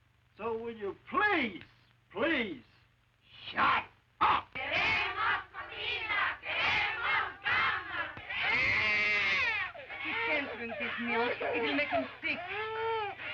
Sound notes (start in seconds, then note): 5.1 chanting; 8.2 baby wails